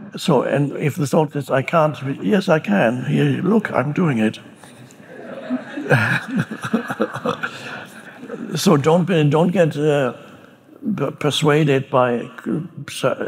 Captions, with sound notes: And if the thought is I can't, yes, I can, look, I'm doing it. (audience chuckling) (Eckhart chuckling) So don't get persuaded by a thought